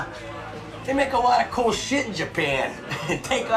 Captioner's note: laughs